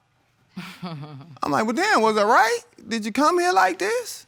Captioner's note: chuckles